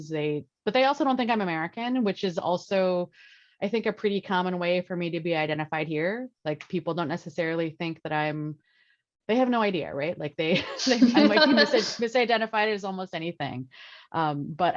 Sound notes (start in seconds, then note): 10.5 laughs